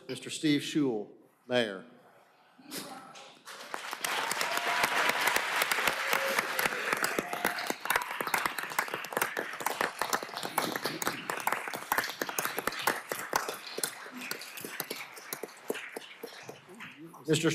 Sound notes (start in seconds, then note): 6.5 applause